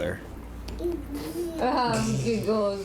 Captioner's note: child laughs